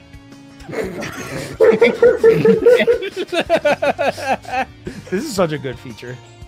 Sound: laughter

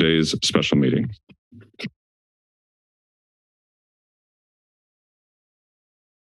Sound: silence

